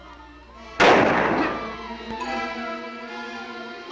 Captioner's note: gunshot fires; dramatic music